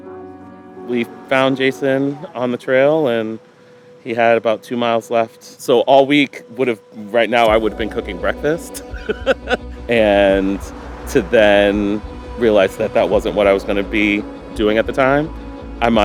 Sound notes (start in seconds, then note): 8.7 laughs